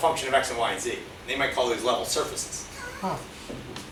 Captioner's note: laughs